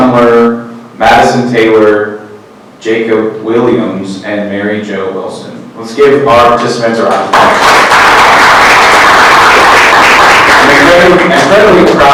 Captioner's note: clapping